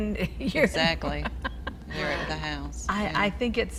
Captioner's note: laughing